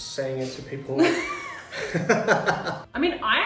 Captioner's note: both laugh